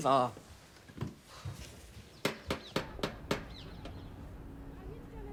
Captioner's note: birds chirping; Diane knocking; neighbors chattering